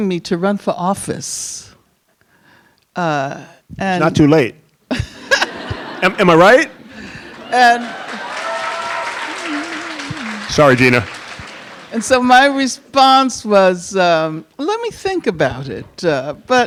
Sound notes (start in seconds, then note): 5.0 Angela Davis and audience laugh; 7.0 audience applauding and cheering